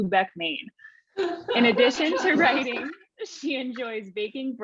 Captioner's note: all laughing